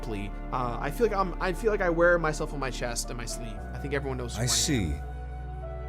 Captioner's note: Jirard's voice fades out